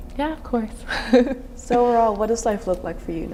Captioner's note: chuckling